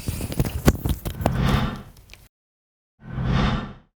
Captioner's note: whooshing